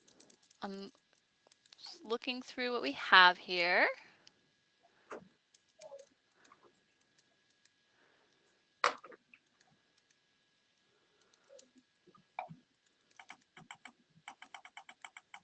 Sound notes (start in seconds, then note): 0.0 fast typing